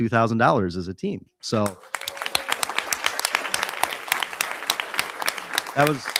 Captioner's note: audience applauding